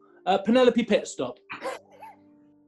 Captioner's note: sniggering